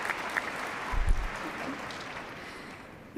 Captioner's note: applause